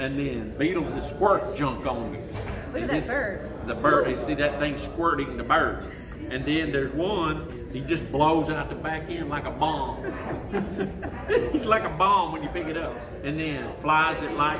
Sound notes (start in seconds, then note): 10.0 laughs